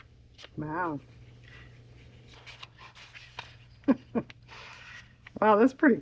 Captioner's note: laughs